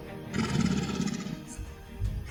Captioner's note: horse sounds